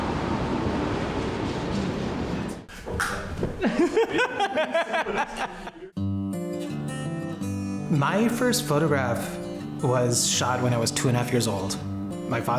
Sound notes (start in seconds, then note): 3.5 laughing